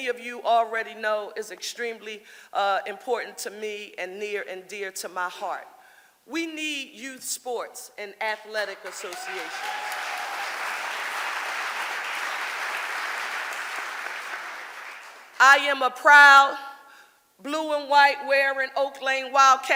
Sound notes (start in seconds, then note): 8.8 audience applauding